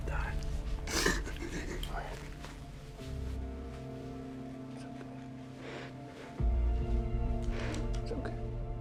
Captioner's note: penny crying